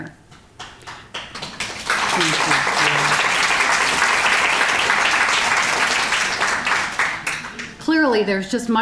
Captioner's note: applause